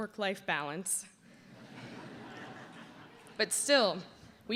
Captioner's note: laughter